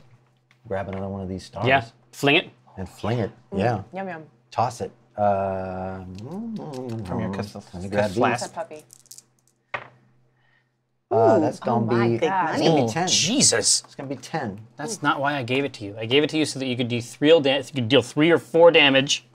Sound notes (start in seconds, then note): 6.1 smacks lips; 9.2 die clatters